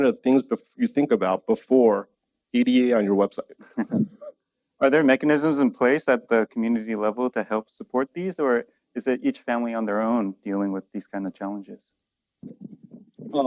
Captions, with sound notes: of things bef- you think about before ADA on your website. (laughs) Are there mechanisms in place at the community level to help support these or is it each family on their own dealing with these kind of challenges?